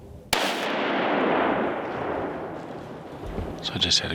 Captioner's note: rifle fires